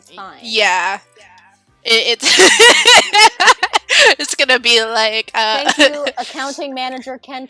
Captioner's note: laughter